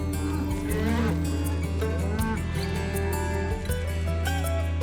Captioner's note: cows mooing